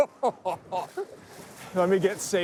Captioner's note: chuckles